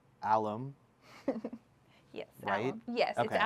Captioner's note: laughs